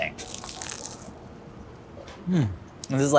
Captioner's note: burger crunches